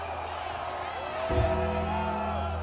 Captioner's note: King laughs; bell tolls; troop cheer